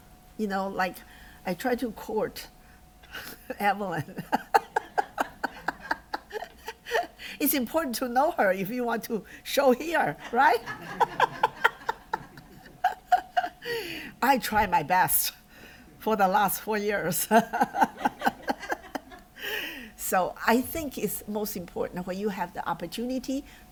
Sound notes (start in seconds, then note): 3.9 laughter; 10.2 laughter